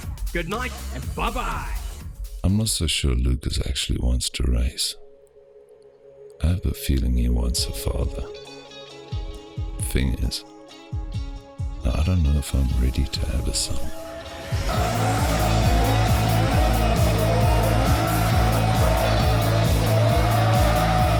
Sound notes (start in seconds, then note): 14.4 tires screeching; 17.1 upbeat rock music